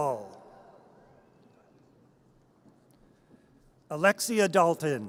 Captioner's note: audience cheers